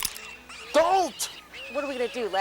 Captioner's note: gun clicks